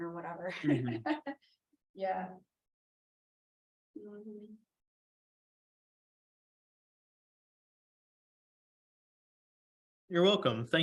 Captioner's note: laughter